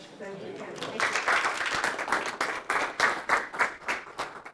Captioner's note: applause